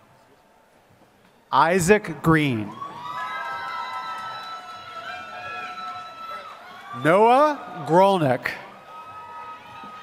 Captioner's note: applause